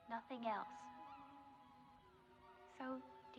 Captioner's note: seagulls Squawking